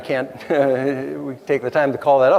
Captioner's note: nervous giggle